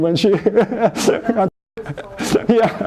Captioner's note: laughs